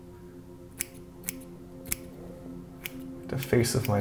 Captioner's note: scissors snipping